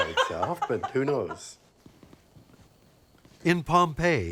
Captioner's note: laughs